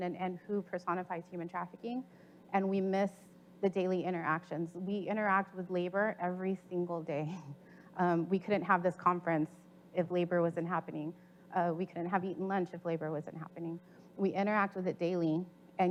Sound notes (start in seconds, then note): 7.6 chuckles